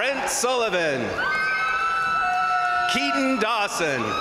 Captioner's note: crowd cheering; crowd applauding